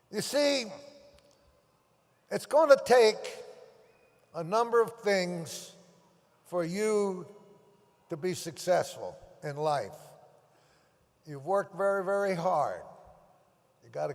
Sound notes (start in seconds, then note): none